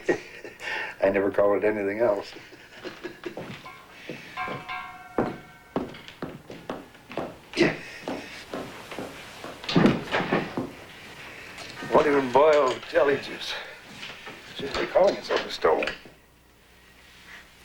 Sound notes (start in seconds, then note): 2.5 chuckle; 8.2 grunt of effort